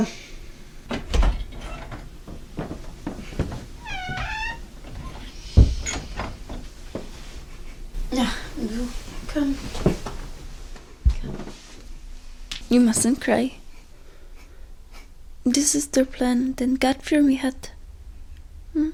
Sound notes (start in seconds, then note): 0.8 door opens; 5.5 door closes; 11.1 object creaking